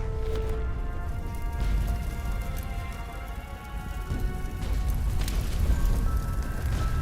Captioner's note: fire, explosions